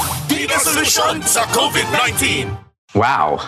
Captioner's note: non-english speech